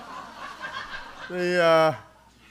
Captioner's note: laughter